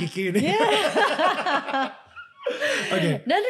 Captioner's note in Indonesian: tertawa